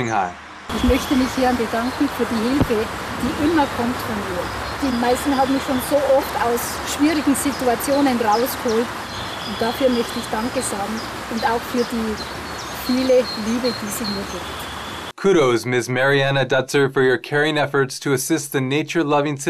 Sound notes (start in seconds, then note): 5.6 in German